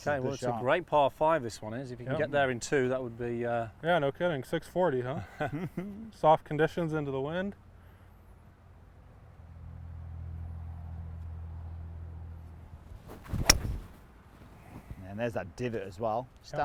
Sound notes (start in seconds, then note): 5.6 laughing; 12.7 golf club swinging